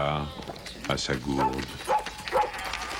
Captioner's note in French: Jappements